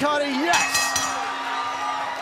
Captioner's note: bell ringing